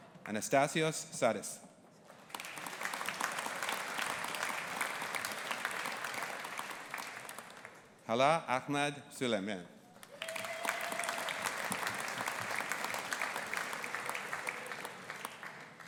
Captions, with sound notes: Anastasios Sarris. (AUDIENCE APPLAUDING) Hala Ahmed Sulaiman. (AUDIENCE APPLAUDING)